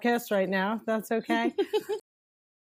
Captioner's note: laughs